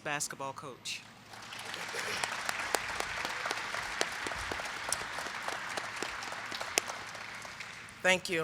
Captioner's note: applause